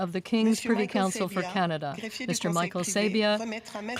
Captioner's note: speaking French